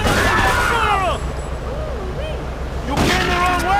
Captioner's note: gun firing